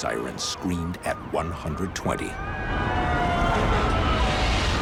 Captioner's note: sirens wailing